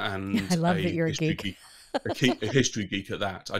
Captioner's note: laughs